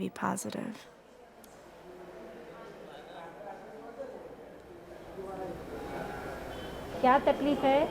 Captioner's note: people talking in background; speaking Indian language